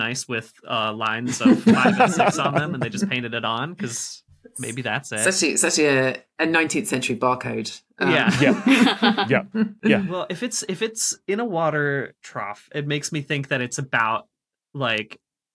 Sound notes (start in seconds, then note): 8.0 guests laughing